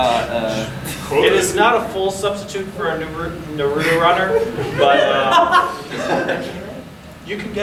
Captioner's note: audience laughing